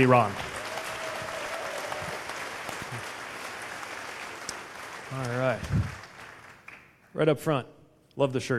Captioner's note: applause